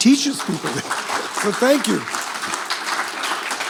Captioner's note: applause